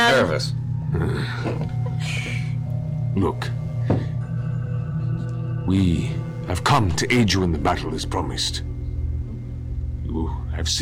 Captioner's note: disgruntled grunt